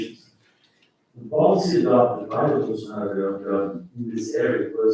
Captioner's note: faintly speaking